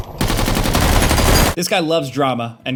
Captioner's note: guns firing